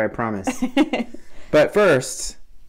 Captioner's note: laughing